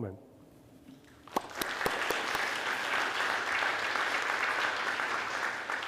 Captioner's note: audience applauds